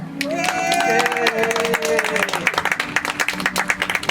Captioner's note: audience applauds